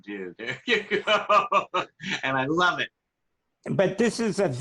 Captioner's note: laughter